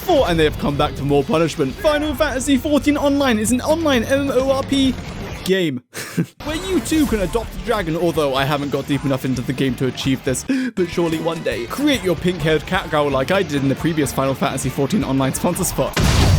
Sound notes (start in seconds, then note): 5.9 giggle UwU